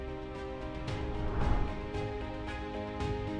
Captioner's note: gentle music; transition whooshing; gentle music continues